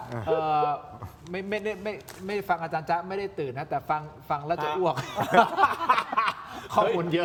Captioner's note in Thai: เสียงหัวเราะ